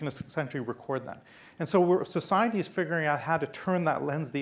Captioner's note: none